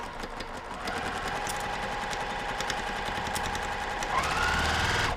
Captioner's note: sewing machine whirring